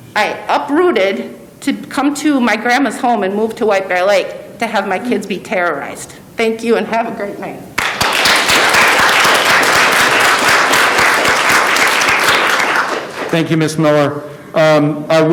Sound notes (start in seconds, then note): 7.7 audience applauding